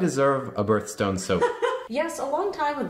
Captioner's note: laughing